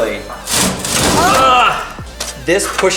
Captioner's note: man groans